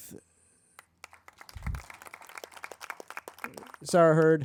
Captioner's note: crowd applauding